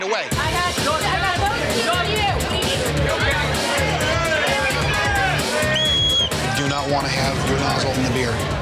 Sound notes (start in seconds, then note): 3.5 yelling; 5.6 whistle